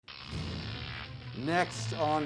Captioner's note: electric buzzing